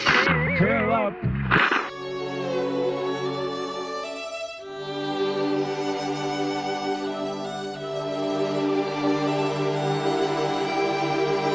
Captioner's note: over megaphone